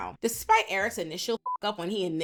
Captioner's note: beep